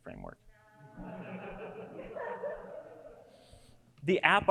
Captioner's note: audience laughs